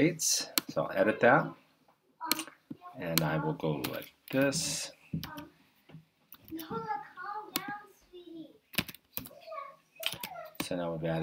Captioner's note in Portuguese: digitando